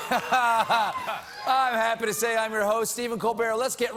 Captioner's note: laughter